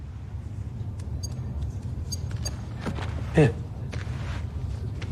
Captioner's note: beeping